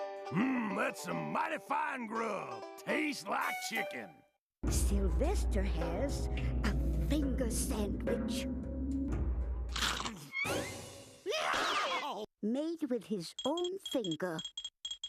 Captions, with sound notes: MMM, THAT'S SOME MIGHTY FINE GRUB. TASTES LIKE CHICKEN. SYLVESTER HAS A FINGER SANDWICH... [scrunching] [screaming] MADE WITH HIS OWN FINGER.